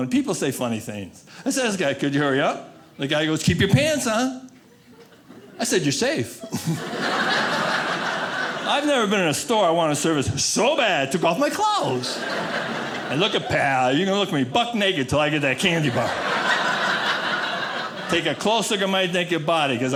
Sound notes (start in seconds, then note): 6.3 audience laughing; 15.6 audience laughing